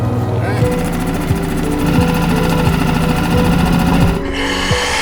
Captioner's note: generator whirring; oxygen tank hissing